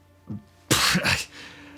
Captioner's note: scoffs nervously